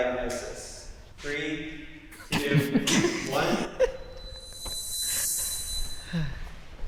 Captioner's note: participants giggling